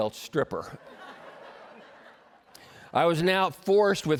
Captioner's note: laughter